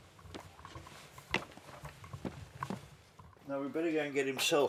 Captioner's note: boots tapping